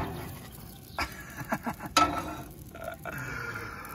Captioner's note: laughs